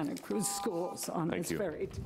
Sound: buzzer rings

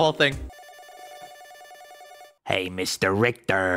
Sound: phone ringing

